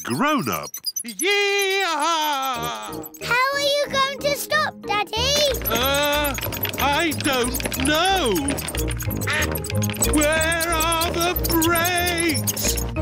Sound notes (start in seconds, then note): 9.2 quacking